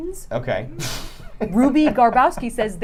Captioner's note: laughs